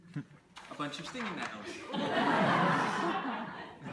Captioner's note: laughter